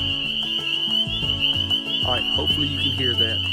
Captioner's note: frogs peeping loudly